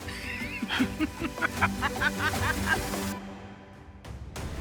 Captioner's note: both laugh